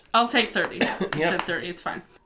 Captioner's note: coughs